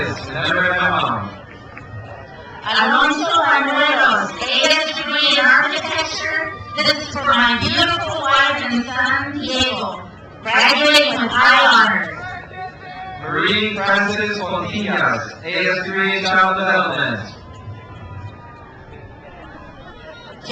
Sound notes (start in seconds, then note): 1.9 crowd cheers; 12.1 man yells; 17.5 crowd cheers